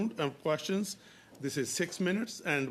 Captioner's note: speaking French